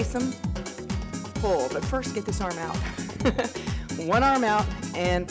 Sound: laughs

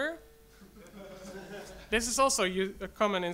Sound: audience laughs

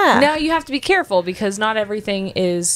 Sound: none

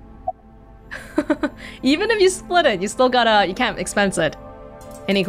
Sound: chuckles

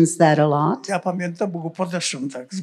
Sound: foreign language

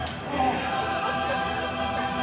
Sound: grunts once more

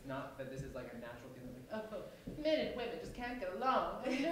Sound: snooty accent

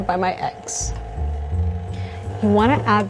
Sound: mixer running

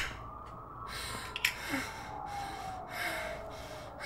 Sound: heavy breathing

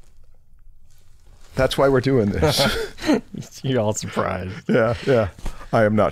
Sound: chuckles

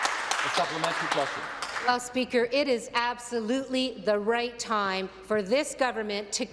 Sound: some Applause

